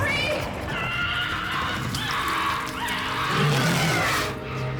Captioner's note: wild animal squawks; roars